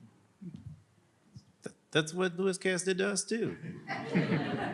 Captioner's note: laughter